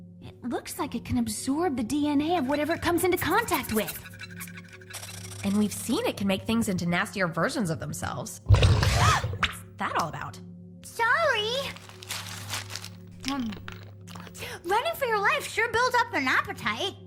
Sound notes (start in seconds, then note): 8.5 growling